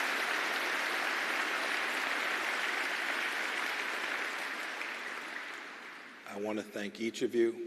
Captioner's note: applause